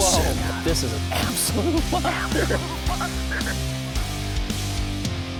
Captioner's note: voiceover; rock music